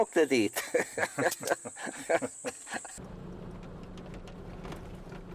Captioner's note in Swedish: Skratt